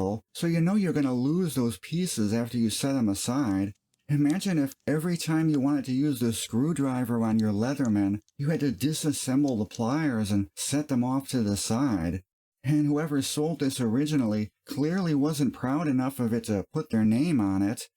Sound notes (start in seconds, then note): none